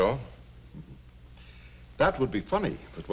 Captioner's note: Gus chuckles